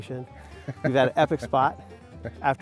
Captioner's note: laughing